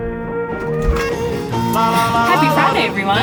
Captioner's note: upbeat music; fridge door opening